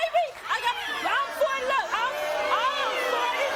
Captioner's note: audience jeering and booing